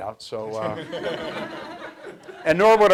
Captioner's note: audience laughs